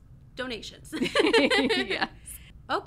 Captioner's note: hosts laugh